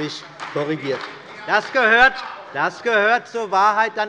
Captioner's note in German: Beifall bei der CDU und dem BÜNDNIS 90/DIE GRÜNEN